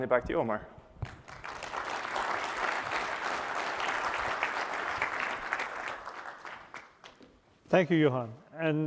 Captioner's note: applause